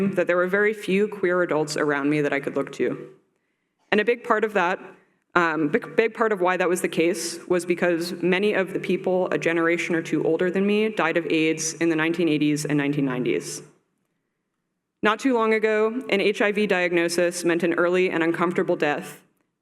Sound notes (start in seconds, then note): none